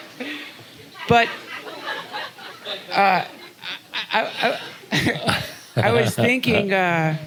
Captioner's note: laughter; stumbling over words